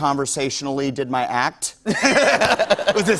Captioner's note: laughter